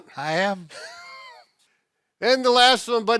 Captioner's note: both laughing